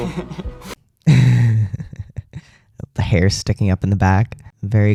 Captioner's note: laugh